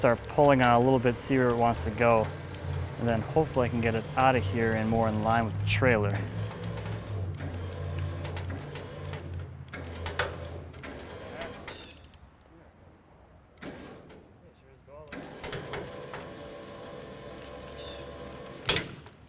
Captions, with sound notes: probably start pulling on it a little bit to see where it wants to go and then, hopefully, I can get it out of here and more in line with the trailer. (engine whirring) (creaking) (engine whirring) (creaking) (engine whirring)